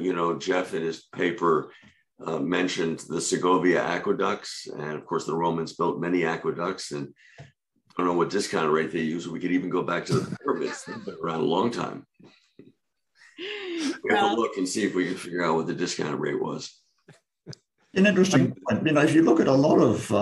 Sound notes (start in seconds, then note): 13.1 laughter